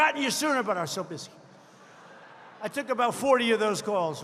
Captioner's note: laughter